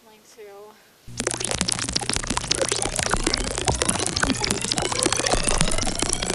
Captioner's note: angry chirping